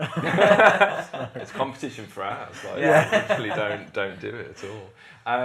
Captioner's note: laughter; laughter